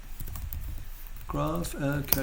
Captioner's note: typing